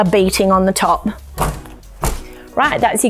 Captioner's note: thud